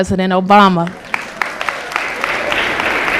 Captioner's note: applause